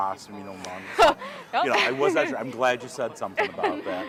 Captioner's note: laughing